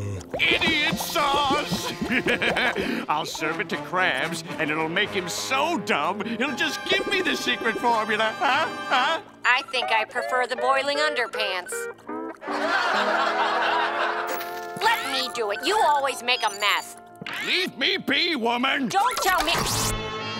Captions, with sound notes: Idiot sauce. [laughing] I'll serve it to Krabs and it'll make him so dumb, he'll just give me the secret formula. Huh? Huh? I think I prefer the boiling underpants. [laughing] Let me do it. You always make a mess. Leave me be, woman. Don't tell me-